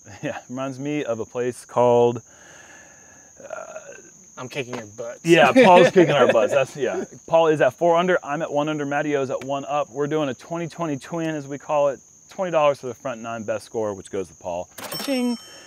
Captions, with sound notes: - [chuckles] Yes, it reminds me of a place called-- -I'm kicking your butts. [laughter] -Yes, Paul's kicking our butts. Paul is at four under, I'm at one under, Mattio is at one up. We're doing a 20, 20 twin is what we call it. $20 for the Front 9 best score which goes to Paul, cha-ching.